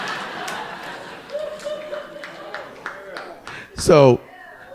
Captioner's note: audience laughing